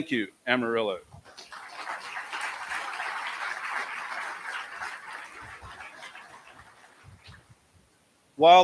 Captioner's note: applause